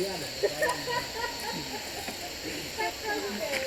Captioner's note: laughs